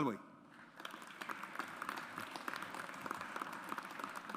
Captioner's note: audience applauds